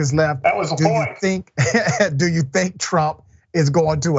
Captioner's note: laugh